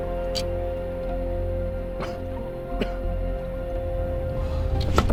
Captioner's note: Spencer coughs